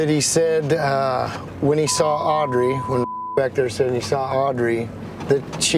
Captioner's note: beep